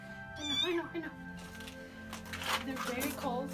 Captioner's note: kitten squealing